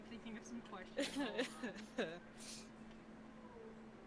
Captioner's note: laughing